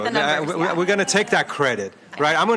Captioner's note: laughing